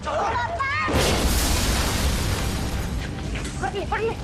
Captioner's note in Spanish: Estruendo